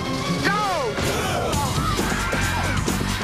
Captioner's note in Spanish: grunting and shouting